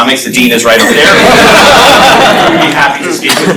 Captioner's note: laughter